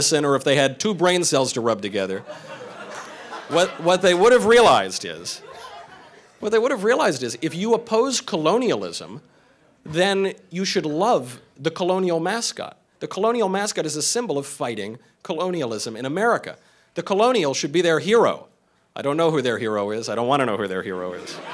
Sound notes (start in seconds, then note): 2.1 crowd laughing